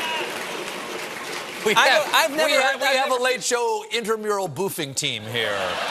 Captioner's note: audience chanting boof; laughter